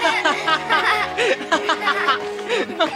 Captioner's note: laughing